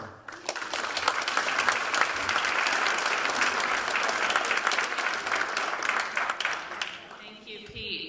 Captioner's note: applause